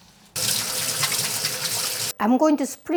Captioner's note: gushing water